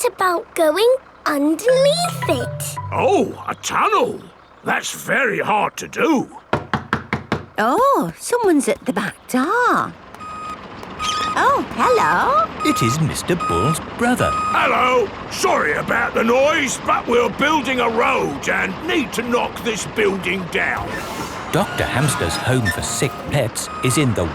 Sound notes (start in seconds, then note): 6.5 knocking at door